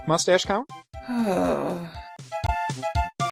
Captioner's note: sighs